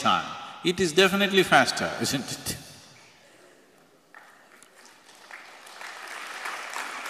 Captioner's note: applause; 掌聲